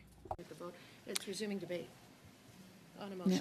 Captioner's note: speaking French